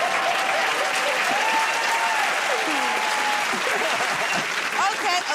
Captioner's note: cheers and applause